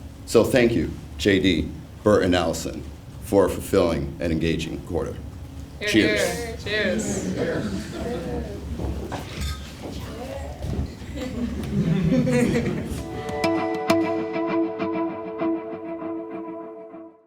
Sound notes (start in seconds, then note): 7.8 laugh